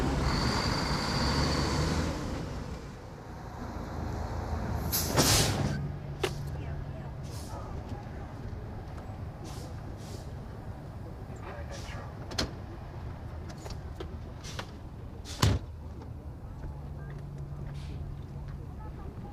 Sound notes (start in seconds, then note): 0.0 truck engine revs; 4.8 truck brakes hiss; 15.4 door slams shut